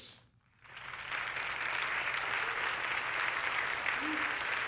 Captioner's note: audience clapping